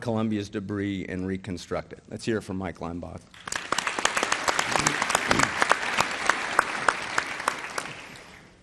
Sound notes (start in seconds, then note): 3.3 applause